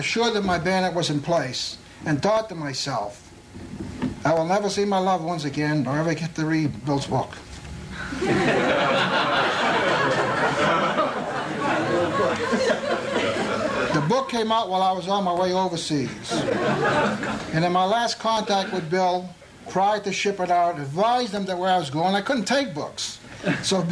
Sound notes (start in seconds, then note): 13.0 laughter